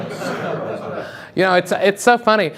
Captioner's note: audience laughs